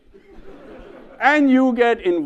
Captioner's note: audience laughs